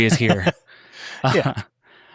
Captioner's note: laughing